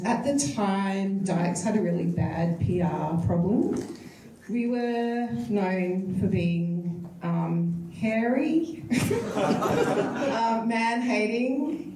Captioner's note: audience laughs